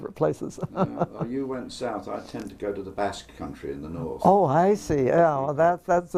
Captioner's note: laugh